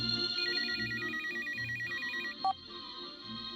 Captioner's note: phone rings